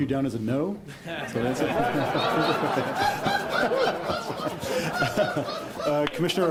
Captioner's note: the howls of yes-men in the crowd